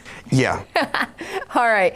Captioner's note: laughing